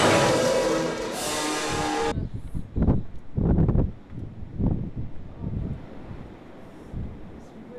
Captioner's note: wind blowing